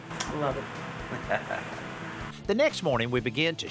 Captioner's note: laughs